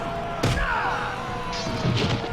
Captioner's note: thud